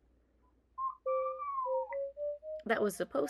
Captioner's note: Luna repeats command in garbled robot voice while Tsukiko plays a scale